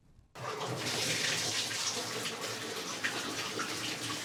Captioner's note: water splashing